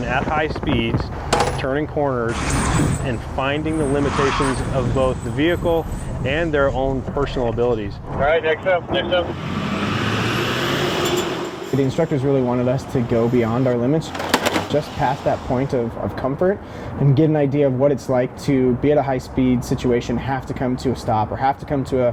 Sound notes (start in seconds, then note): 8.4 man On Radio; 8.9 tires squeal; 9.0 engine revs